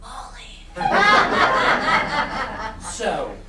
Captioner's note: laughter